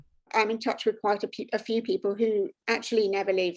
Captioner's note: british Accent